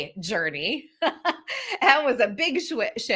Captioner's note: laughs